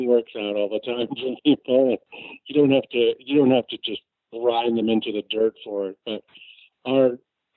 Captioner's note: laughs